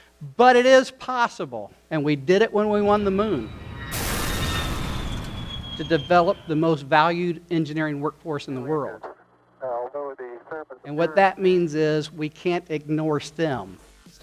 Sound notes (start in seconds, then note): 2.7 rocket launching